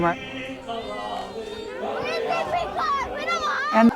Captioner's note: child yells with great passion